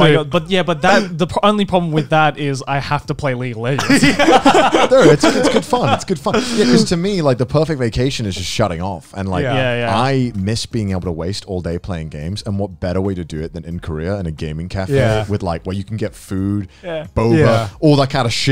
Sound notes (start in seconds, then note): 3.8 laughing